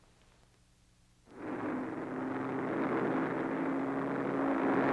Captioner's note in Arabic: هدير الطائرة